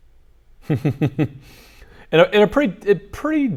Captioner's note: laughter